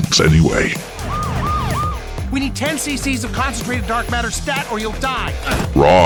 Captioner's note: ambulance pulls up